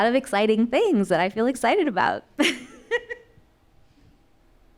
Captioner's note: laughing